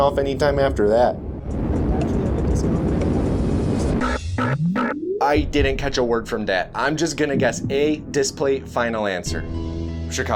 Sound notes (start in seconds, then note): 0.8 distorted wind noises over phone